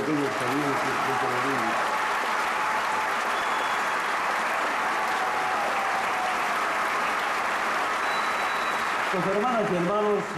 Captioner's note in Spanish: Aplausos, ovación